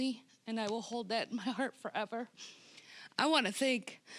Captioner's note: voice wavering